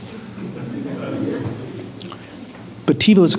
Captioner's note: La audiencia se ríe